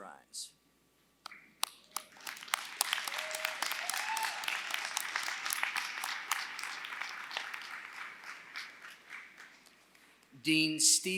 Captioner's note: applause